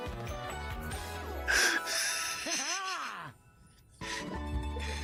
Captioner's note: breathing heavily